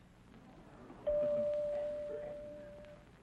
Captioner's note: chime ringing